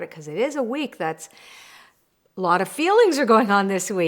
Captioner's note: breathing deeply